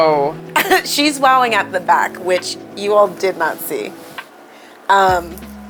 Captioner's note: laughs